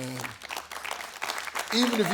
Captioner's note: audience claps